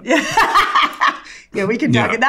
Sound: laughs

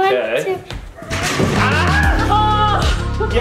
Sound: baby gate crashing

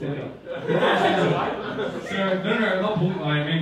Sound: audience laughing

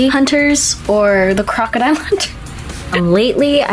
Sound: laughs

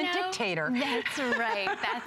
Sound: laughter

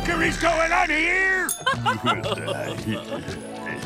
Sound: laughing

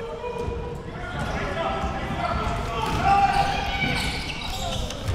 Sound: crowd cheering

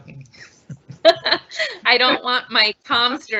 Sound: laughing

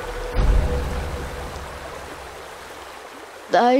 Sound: water gurgling

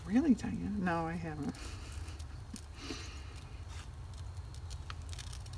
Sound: laughs

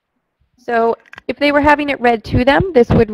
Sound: voiceover

